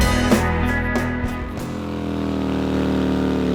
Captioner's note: motor rumble